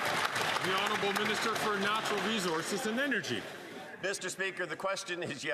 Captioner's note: cheering and Applause